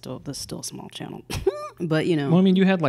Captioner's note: scoffs